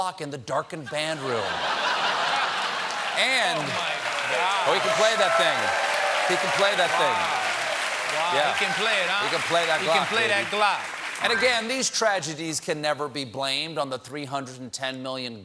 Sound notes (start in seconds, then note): 3.2 applause; 3.2 laughter